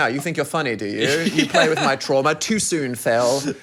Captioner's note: laughs